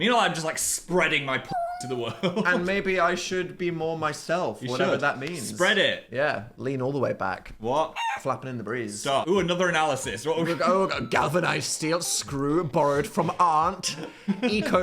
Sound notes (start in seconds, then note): 1.4 cat meowing; 7.9 rooster clucking